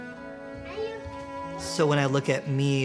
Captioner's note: children talking